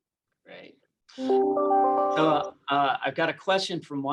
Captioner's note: alarm beeps